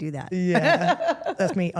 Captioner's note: Steph laughs